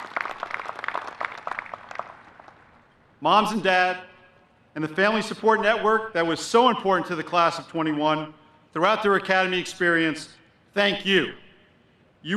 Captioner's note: applause